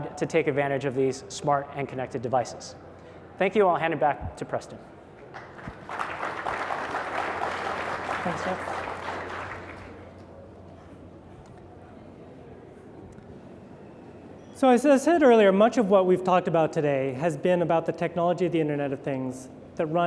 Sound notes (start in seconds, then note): 5.3 applause